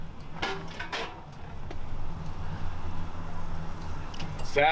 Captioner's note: canister clacks